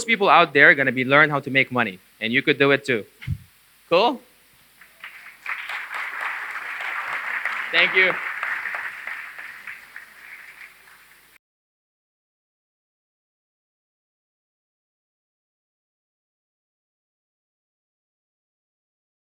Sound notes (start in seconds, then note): 4.8 applause